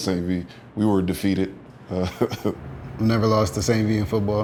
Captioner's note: laughing